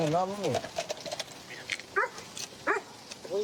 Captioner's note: dog barks